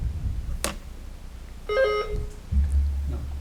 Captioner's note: buzzer beeps